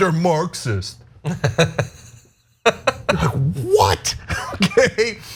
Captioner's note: laugh